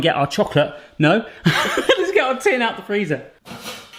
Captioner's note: laughs